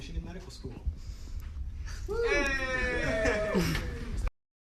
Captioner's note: students cheering